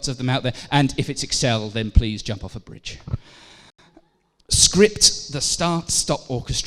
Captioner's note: laughter